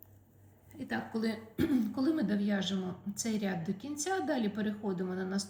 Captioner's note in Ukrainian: прочищення горла